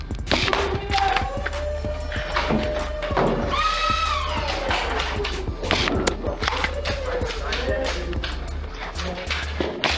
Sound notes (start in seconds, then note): 1.3 motors revving and thunking of darts; 9.7 motors revving and thunking of darts